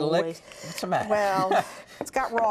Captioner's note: laughter